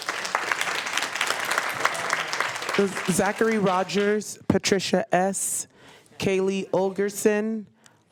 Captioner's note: applause